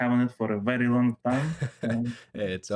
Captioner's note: aheheh